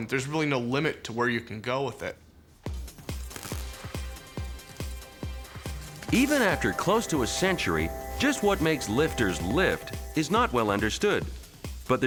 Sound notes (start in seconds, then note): 2.7 static buzzing; 2.7 upbeat music